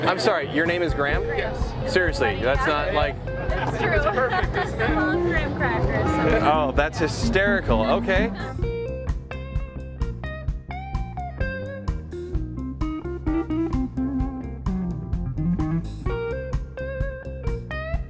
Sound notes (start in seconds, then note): 3.5 laughs; 8.3 upbeat music